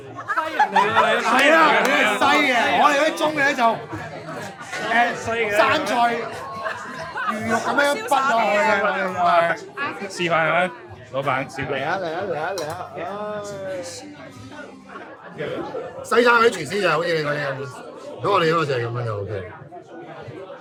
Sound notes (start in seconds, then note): 0.3 owner speaking in foreign language; 10.2 speaking in foreign language; 11.9 friend 2 speaking in foreign language; 16.1 owner speaking in foreign language